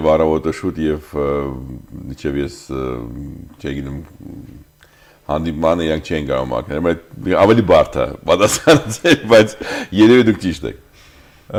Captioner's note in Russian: смеётся